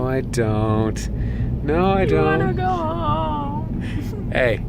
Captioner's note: crying